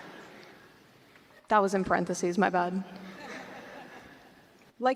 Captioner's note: laughter